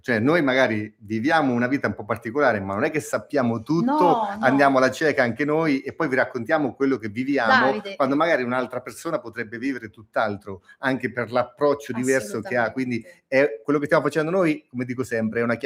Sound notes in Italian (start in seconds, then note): none